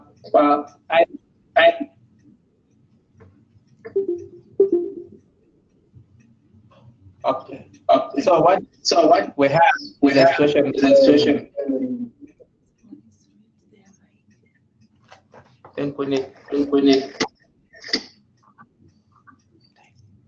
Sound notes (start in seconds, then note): 9.6 glitches; 13.2 murmurs